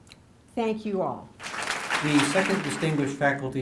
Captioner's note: applause